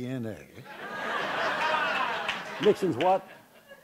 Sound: background Laughter

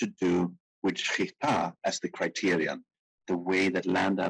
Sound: speaking in foreign language

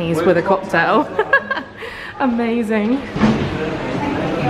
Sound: laughing

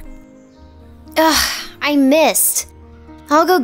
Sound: sighs

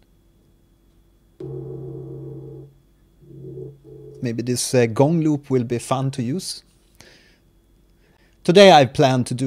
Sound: gong sound

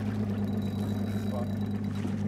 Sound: fish splashing; reel spinning; fish splashing

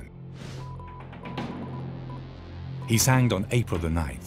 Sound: radio beeps

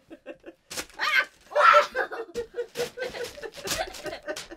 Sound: screams

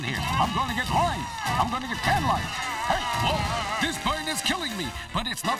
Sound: applause

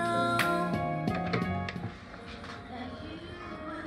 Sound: door open

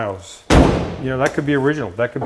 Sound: door thudding

